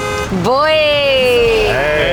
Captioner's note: car honking